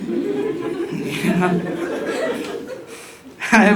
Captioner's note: audience chuckling because they have already heard me sing